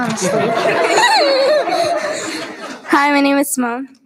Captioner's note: students giggle